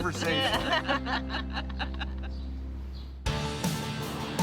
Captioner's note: all laughing; rock music